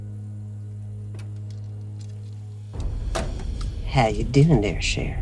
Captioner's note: door opens